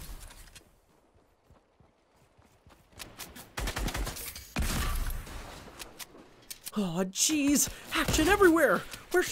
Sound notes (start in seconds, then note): 3.5 gun banging